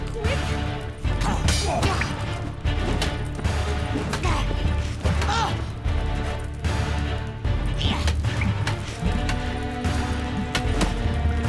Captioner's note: both grunting, groaning